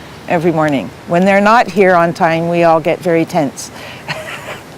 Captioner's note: laughs